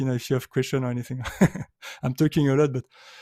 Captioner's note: chuckles